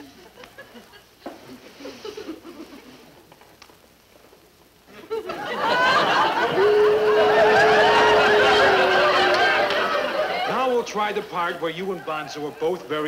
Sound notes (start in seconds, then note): 4.6 audience laughing; 5.6 Bonzo howling